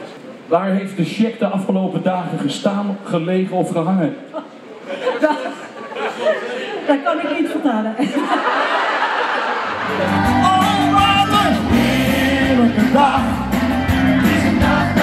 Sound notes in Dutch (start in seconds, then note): 4.8 lacht; 8.0 publiek lacht